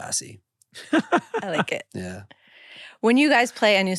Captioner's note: laughs